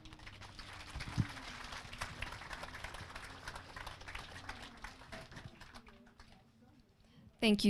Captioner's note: applause